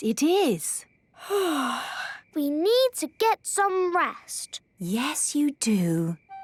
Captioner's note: yawning